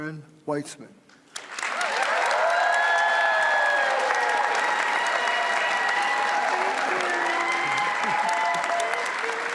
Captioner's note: applause